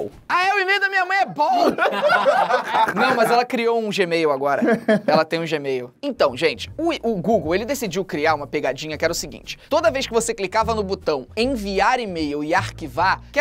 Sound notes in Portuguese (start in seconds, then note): 1.5 risadas